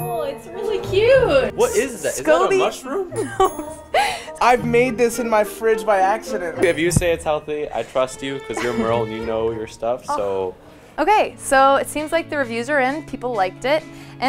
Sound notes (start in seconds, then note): 3.1 laughs